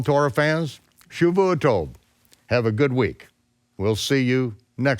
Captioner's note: speaks in foreign language